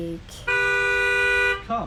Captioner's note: car horn